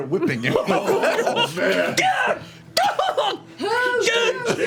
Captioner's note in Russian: вопит